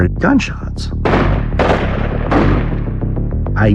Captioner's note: gunshots banging